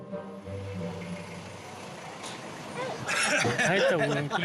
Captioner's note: car engine revving; speaking in foreign